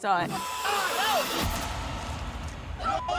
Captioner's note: yelling